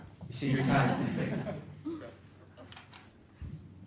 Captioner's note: laughter